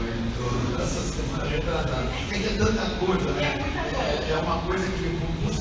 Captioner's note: laughs